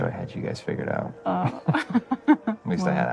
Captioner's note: laughs